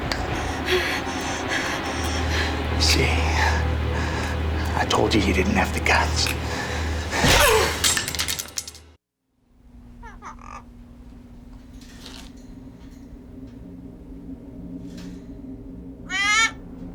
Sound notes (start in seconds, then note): 7.3 grunts; 10.0 kitty squawking